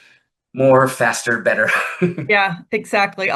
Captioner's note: laughs